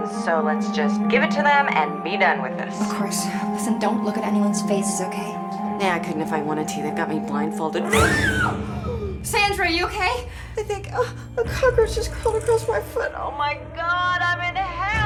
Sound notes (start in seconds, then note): 7.8 Sandra screams; 7.9 dramatic music